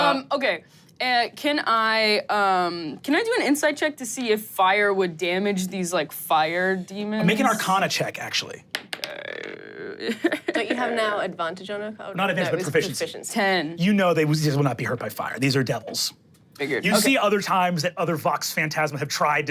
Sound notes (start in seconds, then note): 8.7 dice rolling